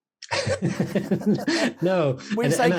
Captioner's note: laughing